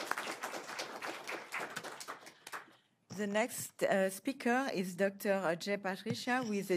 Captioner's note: applause